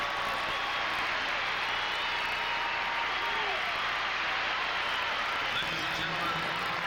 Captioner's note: cheers and applause